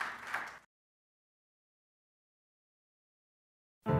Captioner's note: applause